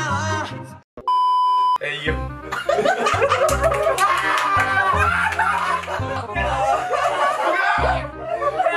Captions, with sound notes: Everyone, who am l? *burst our laughing* who? *burst our laughing* who?